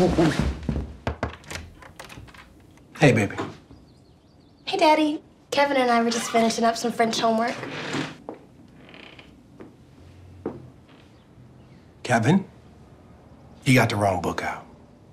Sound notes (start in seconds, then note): 0.0 door knocking and opening; 8.6 door creaking